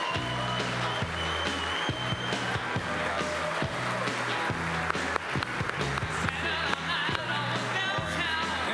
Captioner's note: applause; rock music playing